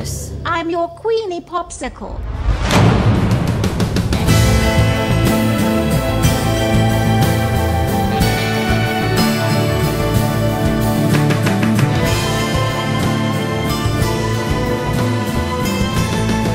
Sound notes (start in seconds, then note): none